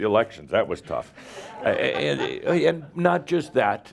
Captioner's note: a few chuckles